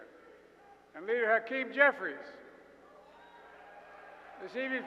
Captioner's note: applause